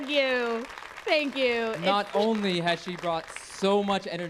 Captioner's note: applause